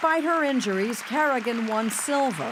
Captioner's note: audience clapping